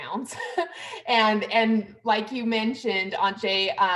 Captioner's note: laughter